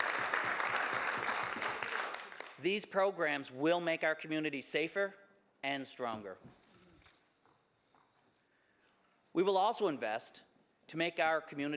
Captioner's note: some Applause